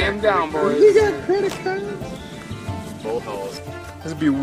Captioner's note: mumbling about cards